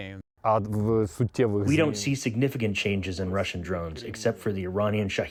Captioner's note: through translator